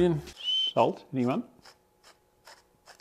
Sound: whistles

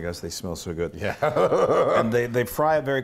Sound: laugh

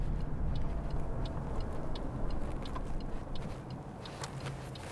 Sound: turn signal clicking

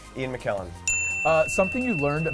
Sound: dinging

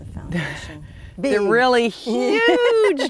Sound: chuckling

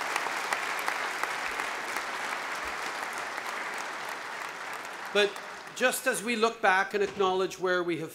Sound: applause

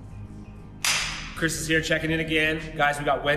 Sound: claps

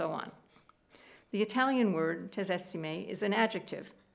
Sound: speaking italian

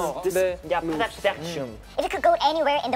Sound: speaking Korean

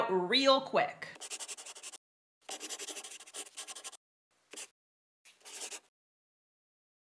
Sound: the sound of a pen scratching. LOGO

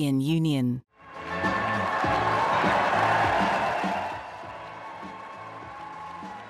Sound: audience applauding; upbeat music

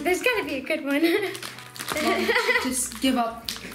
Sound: laughing

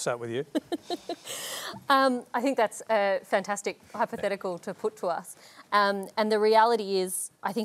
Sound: laughs

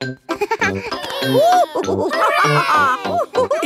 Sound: giggles; madam gazelle laughing; children straining

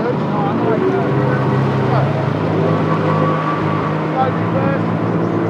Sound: engines whirring

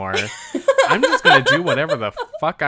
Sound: laughs

